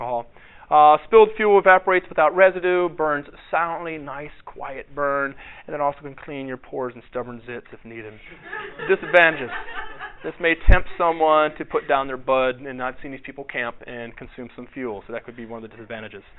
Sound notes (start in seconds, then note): 8.3 audience laughter